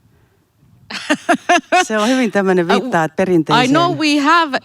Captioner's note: naurahtelua, yrittää sanoa jotain